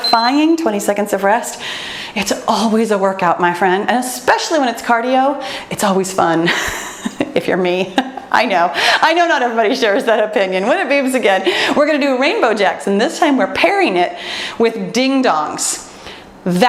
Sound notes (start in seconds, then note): 6.7 laughs; 8.5 laughs